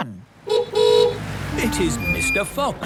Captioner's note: horn honking